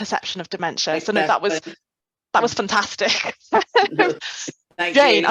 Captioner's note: chuckles